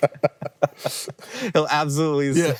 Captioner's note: both laughing